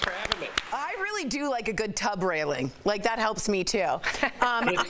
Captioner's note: applause